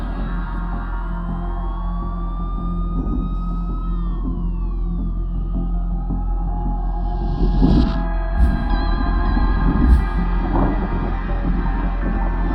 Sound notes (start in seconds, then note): 0.9 distant sirens